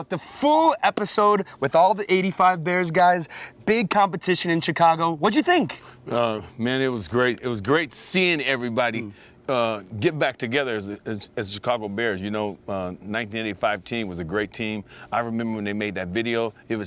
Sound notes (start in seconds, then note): none